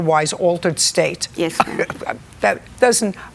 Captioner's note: laughs